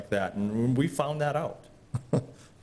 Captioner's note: laugh